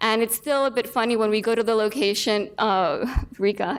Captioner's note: laughs